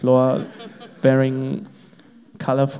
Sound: crowd laughs

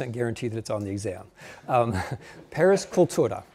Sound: chuckling

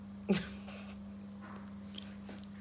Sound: laughing

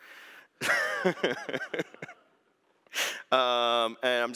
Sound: laughs

